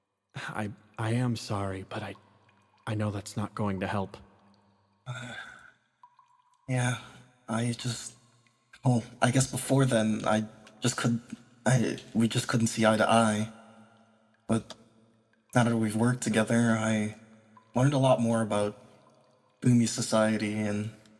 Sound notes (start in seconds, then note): 5.1 Arkat Sigh